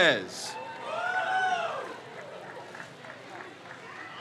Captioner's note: crowd cheers